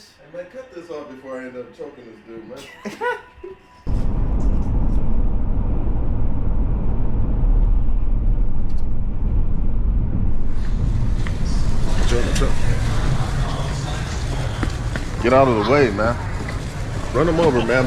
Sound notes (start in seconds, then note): 2.5 laughing; 11.8 shopping cart shakes